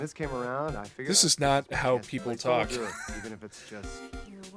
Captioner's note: wheeze